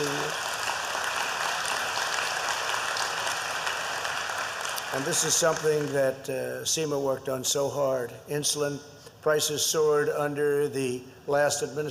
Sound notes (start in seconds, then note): 0.0 applause